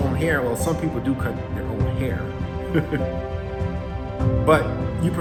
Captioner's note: chuckles